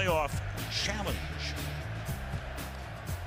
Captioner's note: whistling